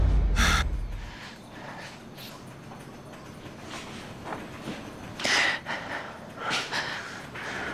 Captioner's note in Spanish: Respiración agitada